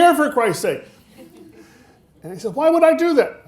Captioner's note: audience laughing